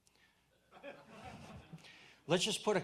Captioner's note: audience laughs